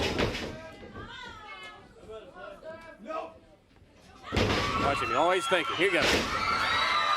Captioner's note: crowd cheering